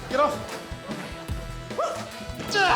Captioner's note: grunts